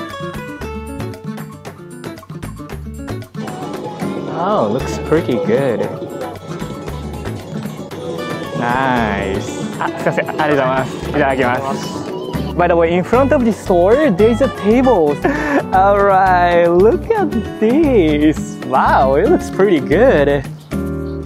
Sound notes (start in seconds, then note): 9.5 speaks in japanese